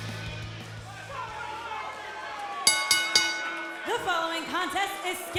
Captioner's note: bell ringing